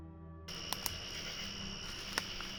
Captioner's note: clapping